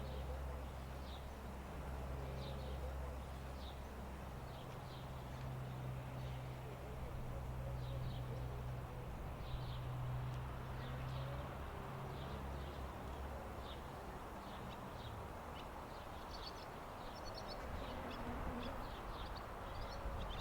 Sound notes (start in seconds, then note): 9.4 birds singing